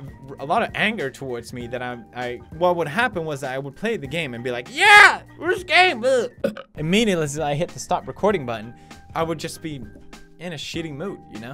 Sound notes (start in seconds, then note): 6.4 burp